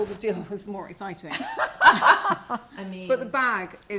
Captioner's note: chuckles